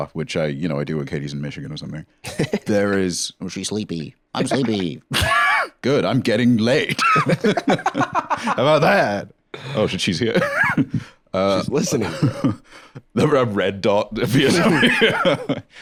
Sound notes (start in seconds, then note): 2.2 laughs; 5.0 laughs; 6.9 laughs